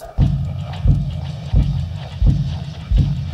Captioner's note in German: Herzschlag